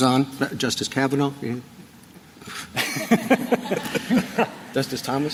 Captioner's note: laughter